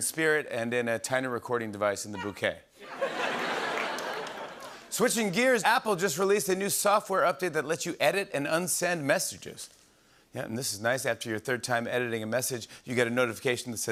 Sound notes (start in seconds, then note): 2.8 laughter